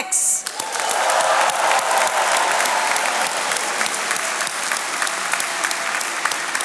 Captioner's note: attendees cheering and applauding